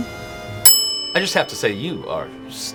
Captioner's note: bell dings